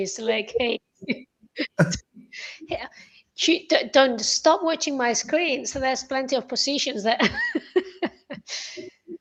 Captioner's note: laughter